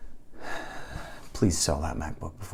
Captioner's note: audible sigh